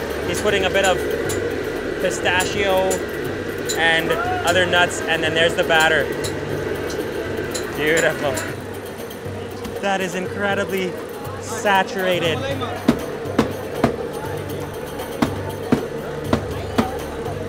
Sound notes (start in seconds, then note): 12.8 knife banging